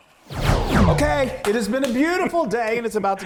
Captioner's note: swooping sound; claps hands